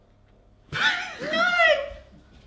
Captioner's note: laughs